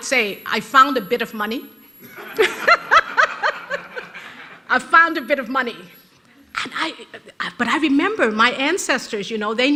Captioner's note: rires de l'auditoire